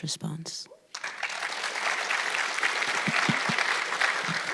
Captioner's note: audience clapping